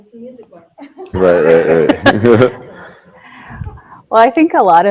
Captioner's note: audience laughing